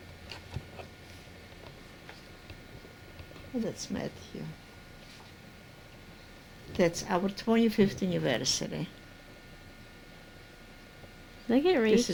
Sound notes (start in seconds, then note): none